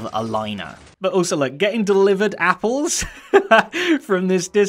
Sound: chuckles

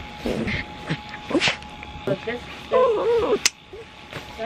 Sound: Poppy whining in background

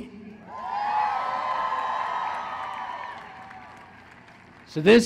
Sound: cheering

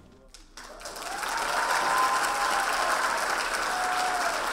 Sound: audience applauding

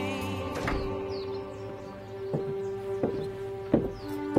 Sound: birds chirping

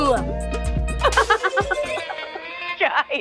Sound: laughing

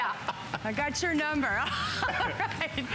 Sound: laughter

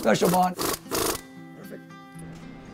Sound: drilling sounds

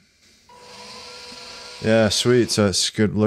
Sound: machine buzzing

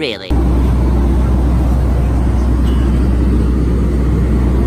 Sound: airplane roaring

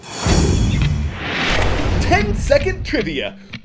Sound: voice-over

